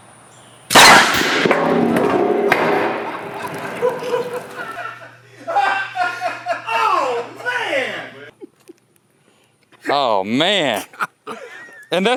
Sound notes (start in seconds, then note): 0.7 cannon fires; 2.8 laughs loudly